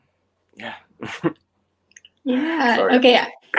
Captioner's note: laughs